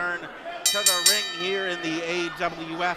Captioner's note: bell rings